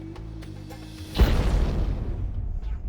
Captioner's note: explosion